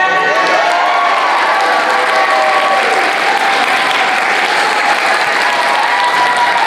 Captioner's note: applause